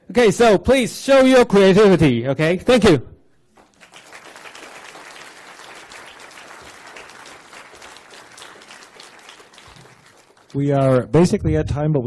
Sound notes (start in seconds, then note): 3.5 applause